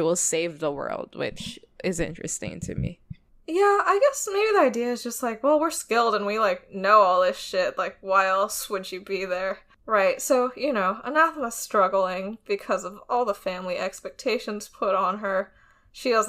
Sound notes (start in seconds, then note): none